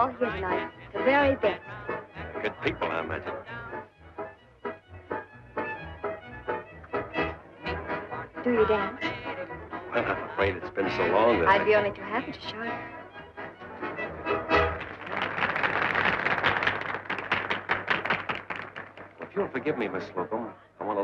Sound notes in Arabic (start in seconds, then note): 13.8 الحشد يصفق